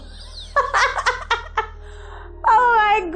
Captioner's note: laughter